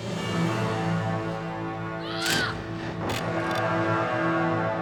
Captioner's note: scythe clatters